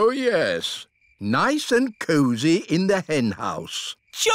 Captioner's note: none